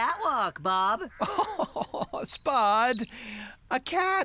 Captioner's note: chuckling